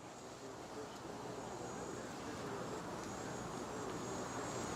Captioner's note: light chatting